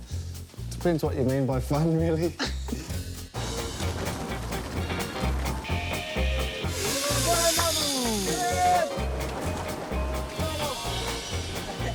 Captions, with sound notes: Depends what you mean by fun really! [Cheers]